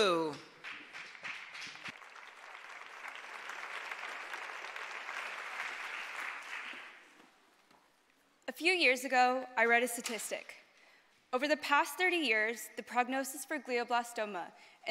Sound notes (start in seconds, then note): 6.3 applause